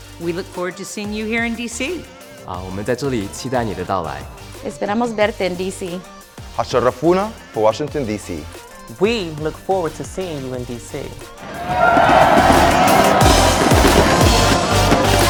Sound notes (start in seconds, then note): 2.6 speaking in foreign language; 11.4 crowd cheers; 12.4 fireworks pop